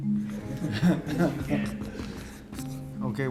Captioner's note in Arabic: ضحك الفصل